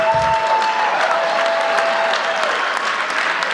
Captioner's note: cheering